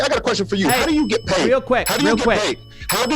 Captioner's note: bell dinging